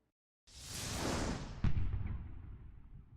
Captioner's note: loud swooshing